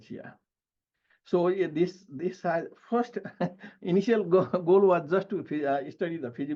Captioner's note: chuckles